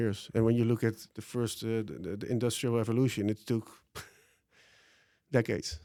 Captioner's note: laughs